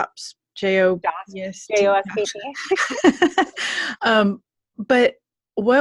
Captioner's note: laughing